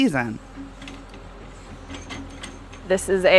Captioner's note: excavator hums